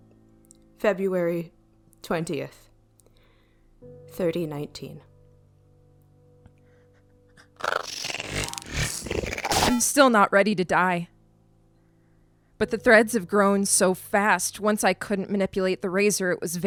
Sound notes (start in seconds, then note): 1.5 pause; 4.8 speaking with effort